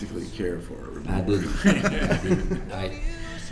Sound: laughter

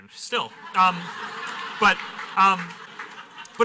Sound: laughter

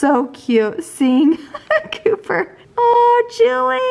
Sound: laughs

